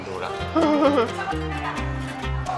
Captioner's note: laughing